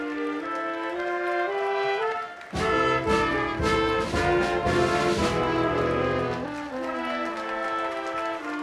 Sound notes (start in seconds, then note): 0.0 audience applauding continues; 4.7 upbeat band music continues